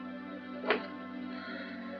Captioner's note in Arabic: يُفتح الباب